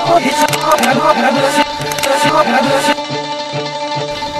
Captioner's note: distorted voices